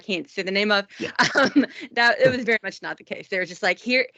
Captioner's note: laughing